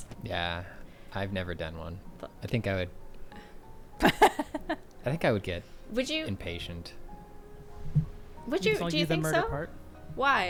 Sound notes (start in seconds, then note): 4.0 laughing